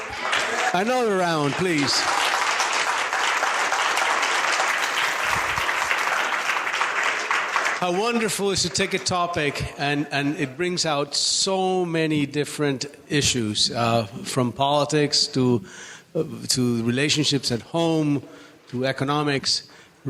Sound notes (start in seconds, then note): 2.0 applause